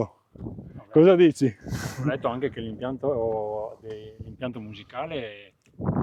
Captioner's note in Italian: sbuffare